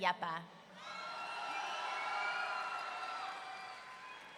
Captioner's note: audience cheering